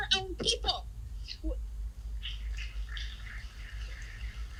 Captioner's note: applause